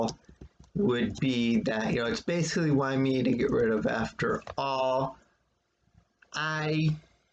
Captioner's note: click of trackpad